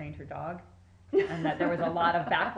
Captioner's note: laughing